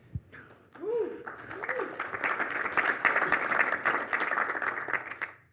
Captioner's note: applause